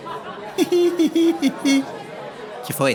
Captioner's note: very silly chuckle